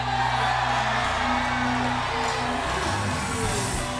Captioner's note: crowd cheering